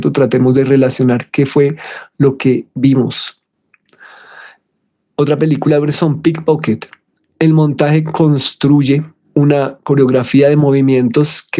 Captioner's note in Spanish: suspiro